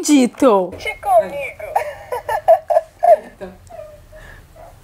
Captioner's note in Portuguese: som de brinquedo